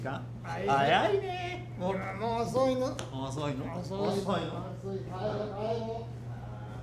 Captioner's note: Toshio speaking in foreign language; both speaking in foreign language